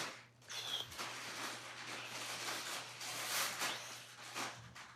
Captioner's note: exhales